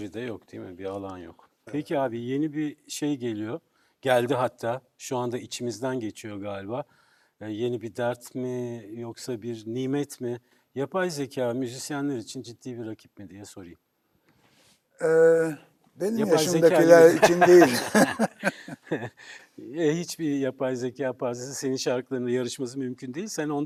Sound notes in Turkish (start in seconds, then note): 17.0 kahkaha